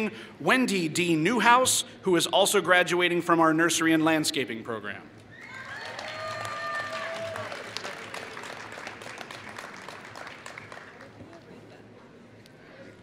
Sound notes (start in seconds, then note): 5.5 applause